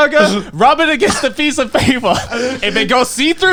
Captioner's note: chuckling